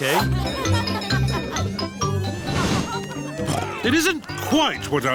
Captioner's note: cheerful jingling; oinks